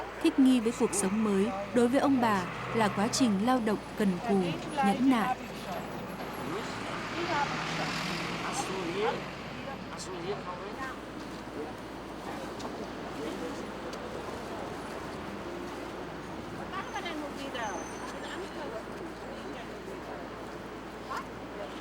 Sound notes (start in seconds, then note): 5.4 speaking German